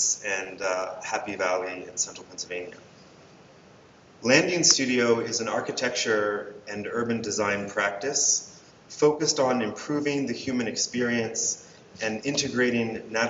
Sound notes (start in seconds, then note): none